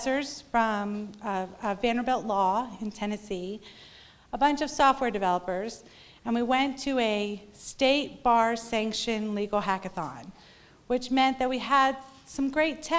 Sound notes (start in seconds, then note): none